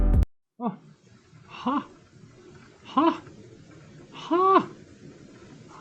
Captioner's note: happy grunts